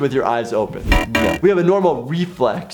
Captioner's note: buzzer buzzing